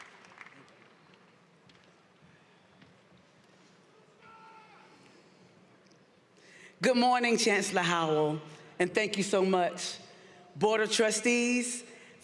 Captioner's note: applause